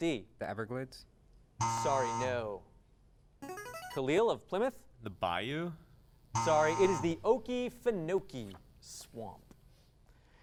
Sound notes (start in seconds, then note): 1.6 buzzing sound; 1.6 device sound; 6.3 buzzing sound